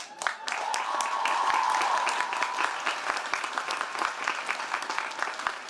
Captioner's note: audience cheering and applauding